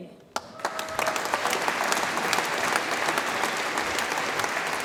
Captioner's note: audience applauds and cheers